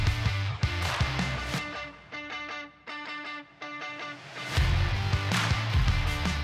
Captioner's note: applause; applause